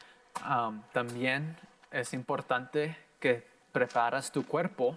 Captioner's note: in foreign language